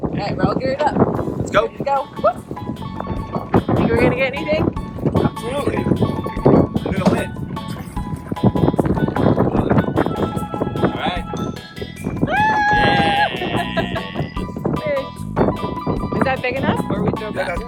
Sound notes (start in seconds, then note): 7.8 laid back music; 12.8 laughter